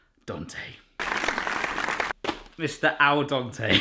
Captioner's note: applause